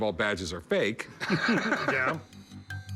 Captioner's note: laughs